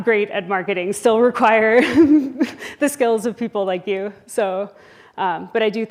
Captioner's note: laughs